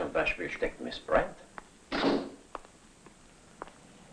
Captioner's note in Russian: хлопает дверь